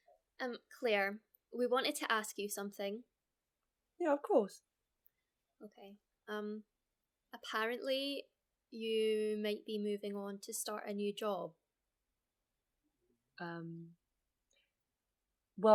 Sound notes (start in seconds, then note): none